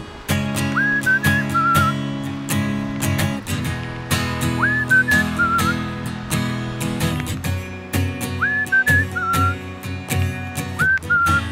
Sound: yet more whistling

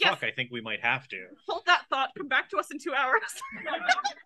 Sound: laughs

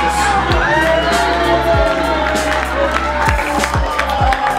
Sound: cheering and applauding

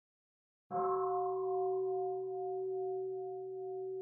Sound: bell

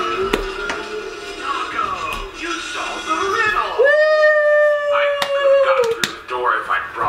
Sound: high five sound

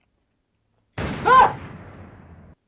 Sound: just a gun sound

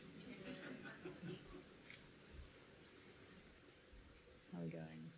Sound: audience laughs

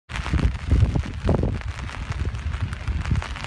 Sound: rain pattering

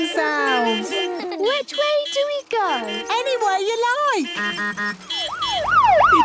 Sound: laughter; honking, siren wailing

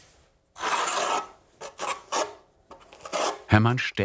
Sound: scraping noises

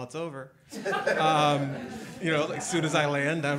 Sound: all laughing

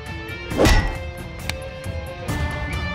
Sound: hitting sound

